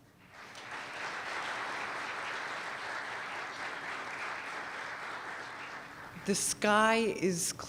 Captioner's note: applause